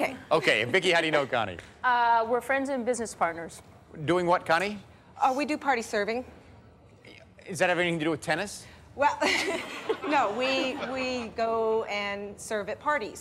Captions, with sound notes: And Vicki, how do you know Connie? -Uh, we're friends and business partners. -Doing what, Connie? -We do party serving. -Does that have anything to do with tennis? -Well, no. (laughter) We--we go and serve at parties.